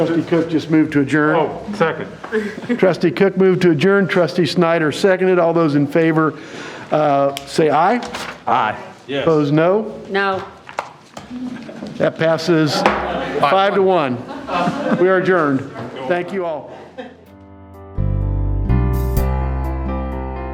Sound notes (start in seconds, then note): 14.0 audience laughing; 17.7 upbeat music